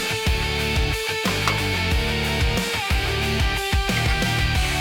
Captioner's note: pipe Chattering